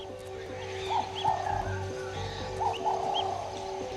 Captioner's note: birds calling